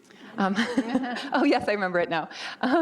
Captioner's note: laughing